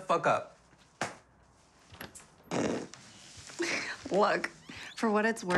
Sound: hand smacking; snickering

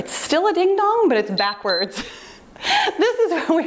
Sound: timer beeps

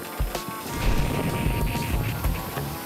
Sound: static electricity

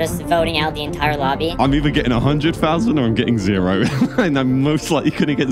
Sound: laughs

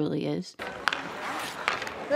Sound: sticks clacking on ice

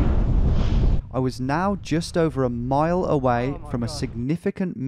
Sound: voiceover

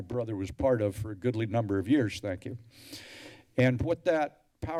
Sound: deep breadth

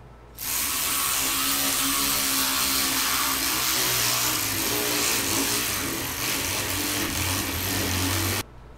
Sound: ratcheting noise

